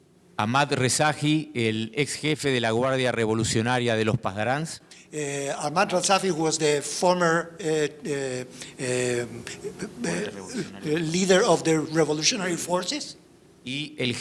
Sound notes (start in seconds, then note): 0.2 speaking in foreign language; 9.5 speaks in foreign language